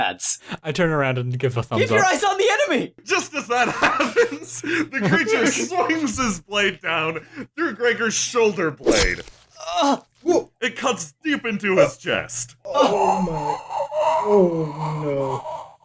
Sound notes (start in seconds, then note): 8.8 noises of distress; 12.7 noises of Even More Distress; 12.8 Gregor emits a long, drawn out wheeze